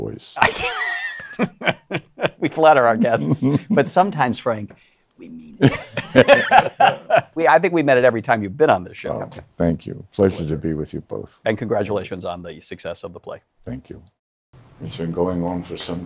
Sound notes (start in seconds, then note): 0.4 laughs; 5.6 laughter